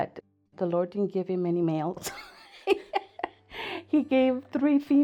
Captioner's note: laughs